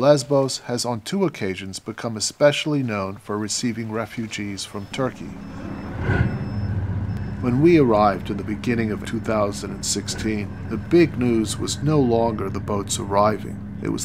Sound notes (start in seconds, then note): 6.0 bus beeping; 6.0 bus engine running